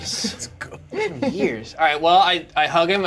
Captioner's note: laughs